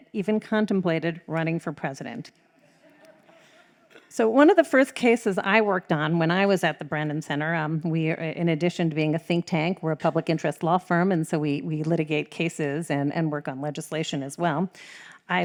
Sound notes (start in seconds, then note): 2.8 audience laughs